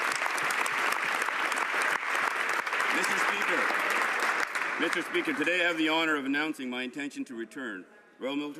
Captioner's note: some Applause